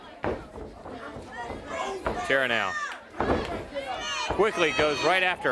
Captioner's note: crowd chatter